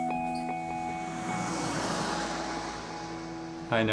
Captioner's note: car zooms past